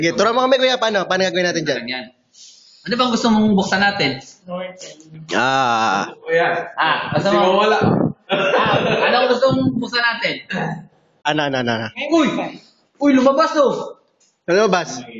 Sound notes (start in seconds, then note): 8.2 laughter